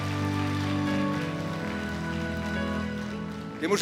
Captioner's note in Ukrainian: оплески